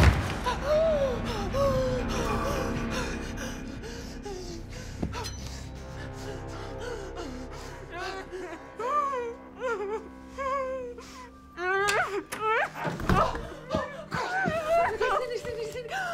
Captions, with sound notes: [gasping] [muffled sobbing] Oh, my--oh! Girls! Oh, my God! Cindy, Cindy, Cindy!